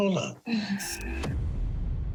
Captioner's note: sighs